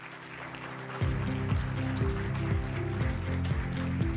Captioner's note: applause